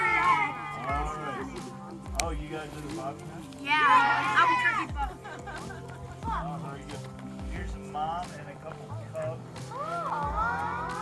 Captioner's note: students yelling excitedly